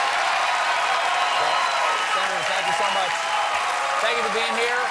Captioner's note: cheers and applause